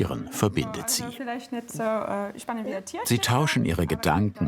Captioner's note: conversation continues in the background